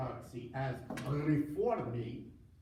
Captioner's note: foreign language